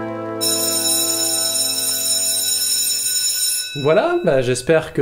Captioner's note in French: ♫ Sonnerie de fin du cours